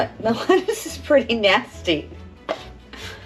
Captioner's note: laughs